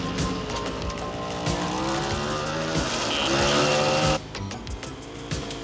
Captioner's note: motorcycle engines roaring